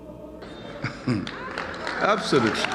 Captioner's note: chuckles nefariously